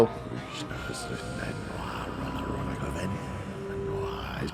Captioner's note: evil whispering continues